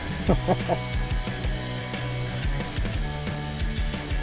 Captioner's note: laughs